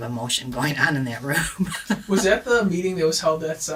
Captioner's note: laughs